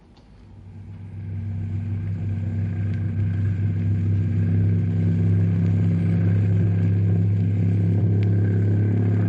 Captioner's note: engine revving